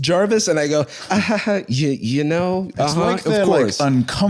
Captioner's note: uncomfortable laughter